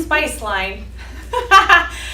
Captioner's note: laughter